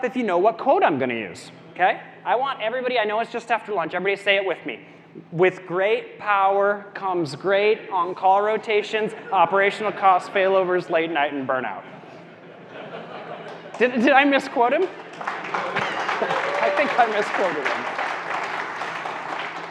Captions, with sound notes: if you know what quote I'm gonna use, okay? I want everybody, I know it's just after lunch, everybody say it with me. "With great power comes great on-call rotations, operational costs, failovers, late night, and burnout." (audience laughing) Did I misquote him? (audience clapping) (audience cheering) I think I misquoted him.